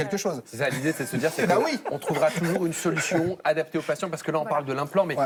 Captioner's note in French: rires